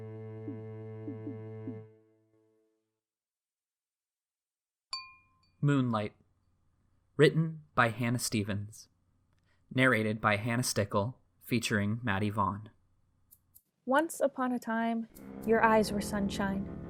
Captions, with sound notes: [music stops] [chime sound] "Moonlight" written by Hannah Stephens narrated by Hannah Stickel featuring Maddie Vaughan Once upon a time your eyes were sunshine